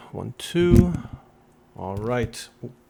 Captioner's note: thud!